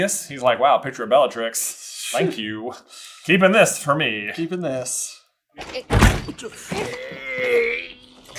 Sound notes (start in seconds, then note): 6.7 elf groans and fighting